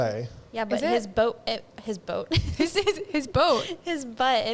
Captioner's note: laughs